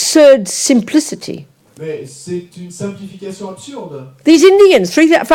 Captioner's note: audience member speaks in French